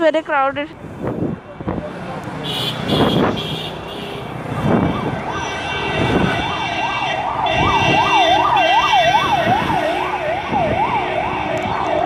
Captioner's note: car horns and siren getting louder